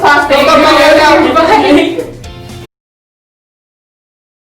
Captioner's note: laughing